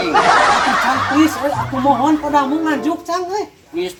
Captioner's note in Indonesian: ketawa